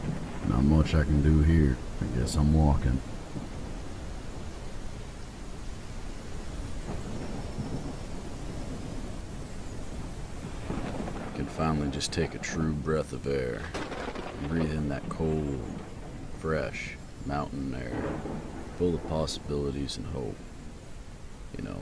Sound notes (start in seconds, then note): 2.9 raining and thundering